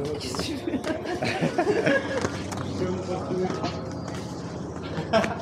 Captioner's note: laughs